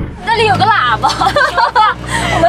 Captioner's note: ha ha ha